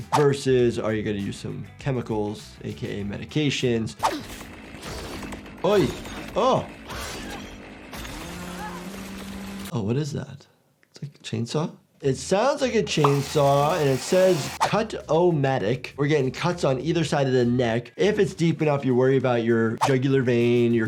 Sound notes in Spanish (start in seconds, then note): 7.4 Sierra zumbando